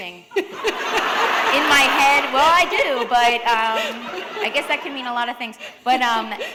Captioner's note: laughter